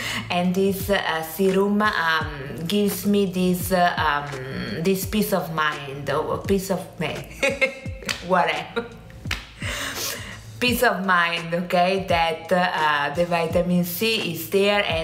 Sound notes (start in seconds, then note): 7.4 laughs